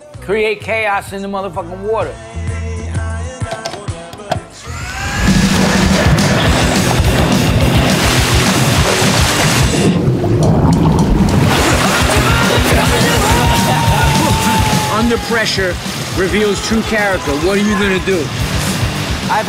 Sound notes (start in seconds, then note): 5.2 hard rock music; 5.2 waves splashing